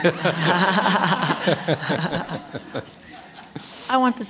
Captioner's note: laughter